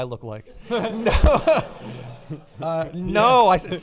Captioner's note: laughing